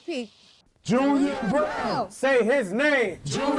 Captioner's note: crowd